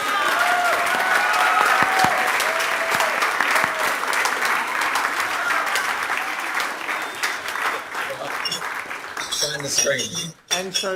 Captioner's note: audience applauding and cheering